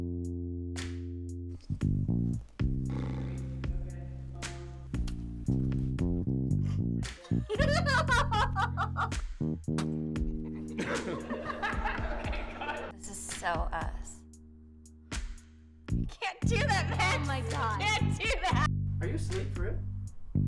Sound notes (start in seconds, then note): 7.0 giggling; 9.8 spitting out drink laughing